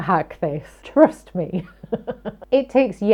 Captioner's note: laughing